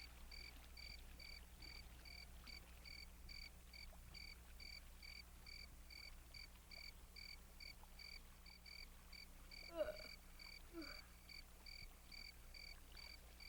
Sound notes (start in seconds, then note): 9.7 yawns loudly